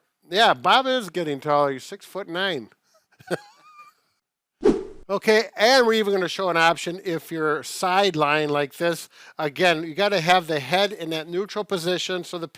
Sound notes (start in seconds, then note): 3.1 both chuckling; 4.6 air swooshing